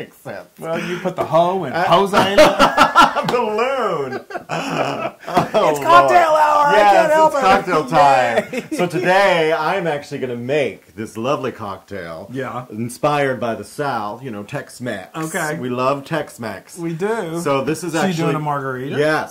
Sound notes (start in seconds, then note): 2.6 laugh; 8.1 laugh